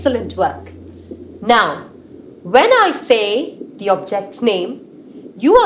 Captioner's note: underwater sounds